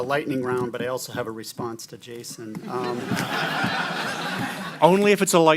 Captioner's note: laughter